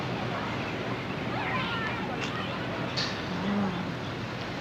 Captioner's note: background din